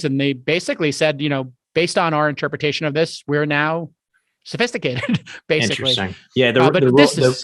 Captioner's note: chuckles